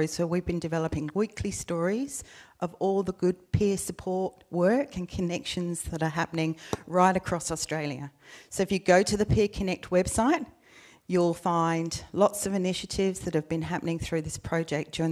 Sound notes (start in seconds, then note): none